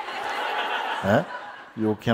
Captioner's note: more laughter